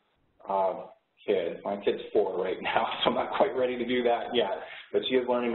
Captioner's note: laughs